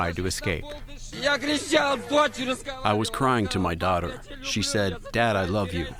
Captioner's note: through translator